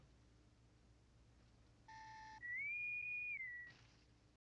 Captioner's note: intercom whistle